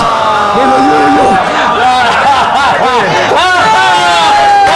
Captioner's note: laughs